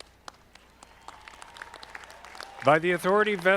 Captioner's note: audience clapping